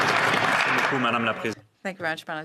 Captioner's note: some Applause